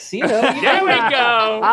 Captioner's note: laughing